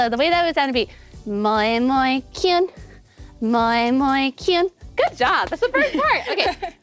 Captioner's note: speaking foreign language